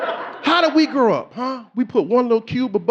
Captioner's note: audience laughing